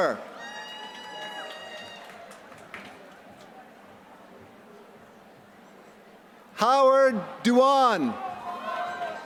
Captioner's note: applause